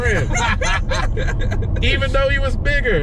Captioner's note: laughter